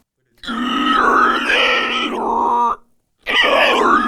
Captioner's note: alien sounds